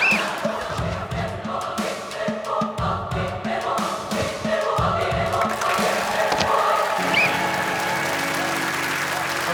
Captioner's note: blows whistle